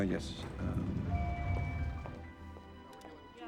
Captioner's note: elevator dings